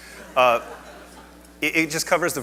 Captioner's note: audience laughs